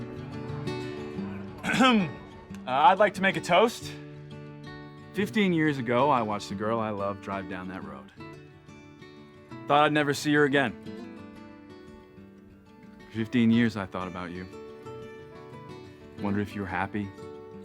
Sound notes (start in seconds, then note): 1.6 clears throat